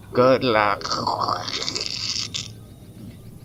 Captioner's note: radio-interference